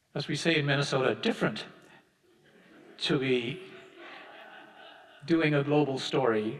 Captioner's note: audience laughing